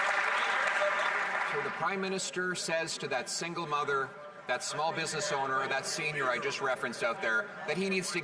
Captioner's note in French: voix de l'interprète